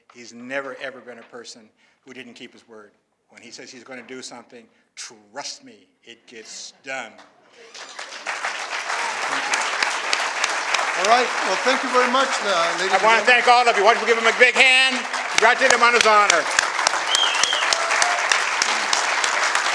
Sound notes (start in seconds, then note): 12.7 applause